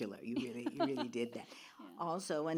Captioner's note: laughs